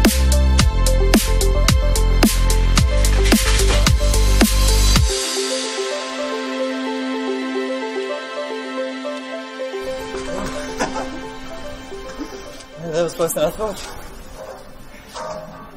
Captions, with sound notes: Oh! [ LAUGHS ] That was worse than I thought!